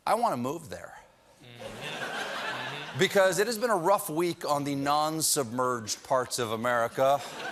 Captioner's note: laughter